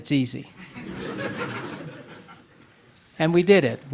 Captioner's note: audience laughing